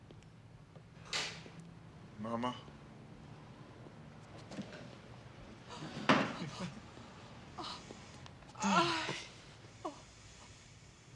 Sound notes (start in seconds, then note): 5.9 gasps; 8.5 sighs